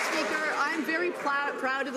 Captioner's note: some Applause